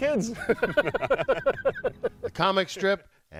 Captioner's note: laughter